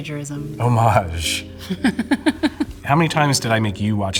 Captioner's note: Kate laughing